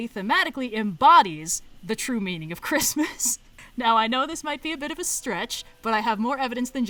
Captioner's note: laughs